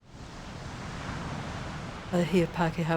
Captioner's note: waves crashing